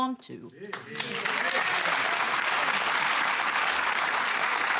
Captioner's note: cheering and applause